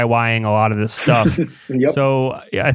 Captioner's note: laughs